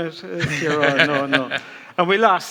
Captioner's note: laughs